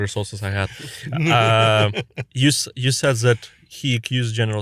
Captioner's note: laughs